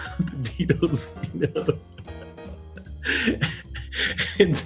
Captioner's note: laughs